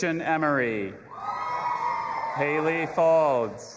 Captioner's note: audience applauding and cheering